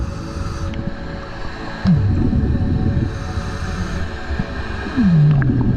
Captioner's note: underwater sounds continue